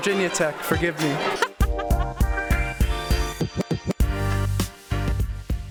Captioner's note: laughs